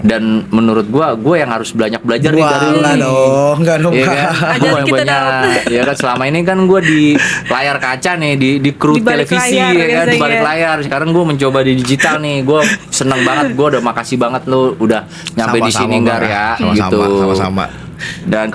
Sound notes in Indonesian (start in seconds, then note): 3.7 tertawa